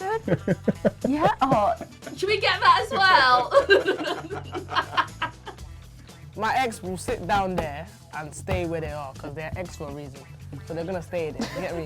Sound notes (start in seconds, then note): 0.0 laughing; 2.7 laughing loudly